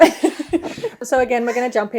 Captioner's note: both laughing